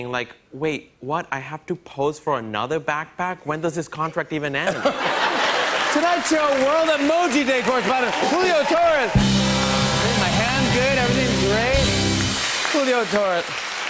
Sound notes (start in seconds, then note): 4.7 laughter and applause; 9.0 cheers and applause